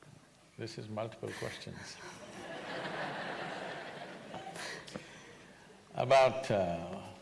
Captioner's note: laughter